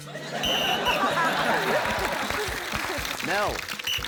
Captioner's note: blows whistle